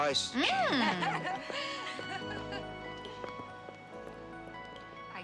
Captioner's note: ladies laughing